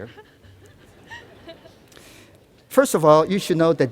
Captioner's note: laughter